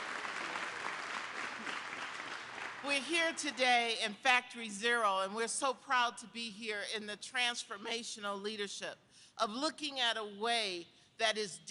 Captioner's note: applause